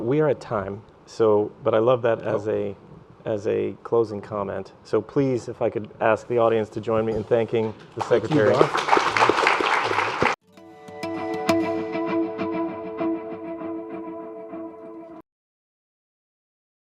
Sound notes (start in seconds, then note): 8.0 audience applause; 10.4 upbeat instrumental music